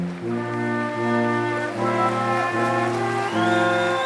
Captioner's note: applause